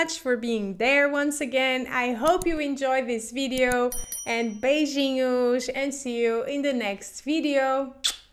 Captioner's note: kisses